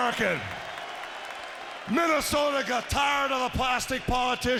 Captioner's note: applause